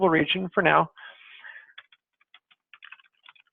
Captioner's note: typing